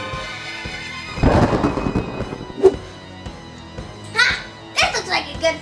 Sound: suspenseful music; lightning striking

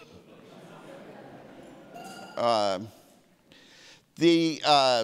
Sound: audience laughing

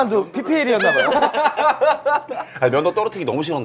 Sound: laughing

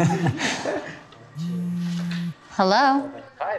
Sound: laughs; cell phone rings

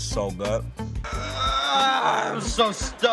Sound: groaning

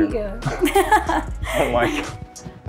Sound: laughs

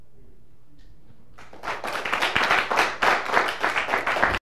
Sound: applause

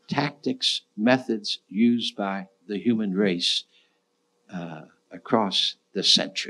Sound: none

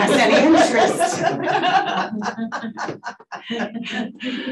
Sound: panelists laughing

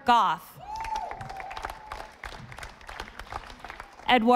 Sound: audience applauding

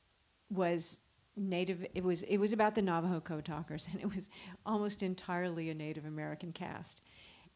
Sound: chuckles

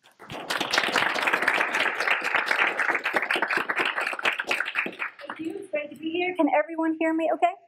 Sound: applause

